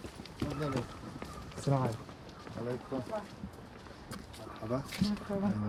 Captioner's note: speaking foreign language